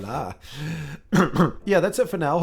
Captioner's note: cough cough